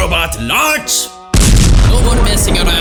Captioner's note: explosion